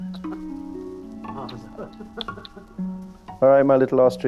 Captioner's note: laughing